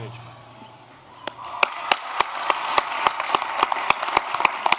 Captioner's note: applause